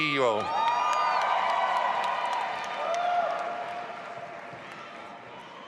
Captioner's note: audience applauding and cheering